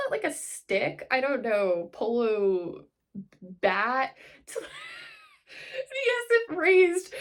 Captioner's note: laughs